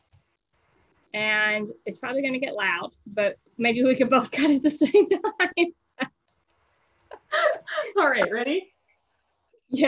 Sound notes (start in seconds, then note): 7.1 laughs